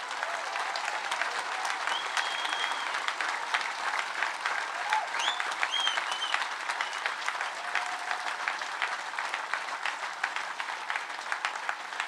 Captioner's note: sustained cheers & applause